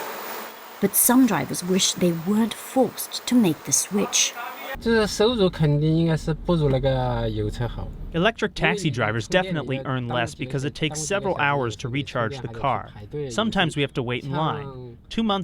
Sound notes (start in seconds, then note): 6.0 through translator